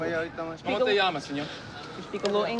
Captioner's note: speaking spanish